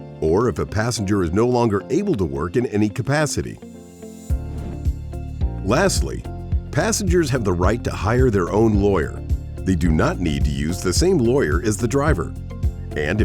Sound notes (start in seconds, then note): 3.8 bright music; 4.3 graphic whooshing